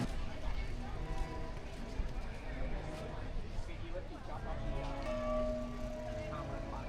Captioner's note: people chattering